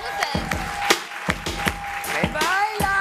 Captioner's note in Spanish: aplausos